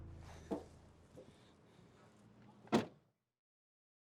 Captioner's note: trunk closing